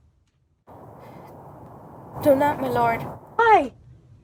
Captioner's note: wind blowing